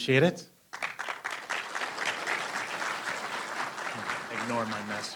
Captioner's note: applause